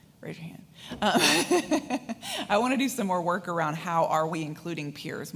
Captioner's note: laughs